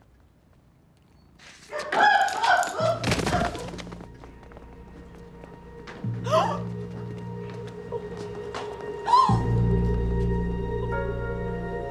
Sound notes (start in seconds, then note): 2.1 Sarah cries out; 2.1 heavy thudding; 6.6 Vera gasps; 9.1 Shirley gasps